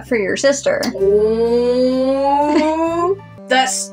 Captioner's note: chuckle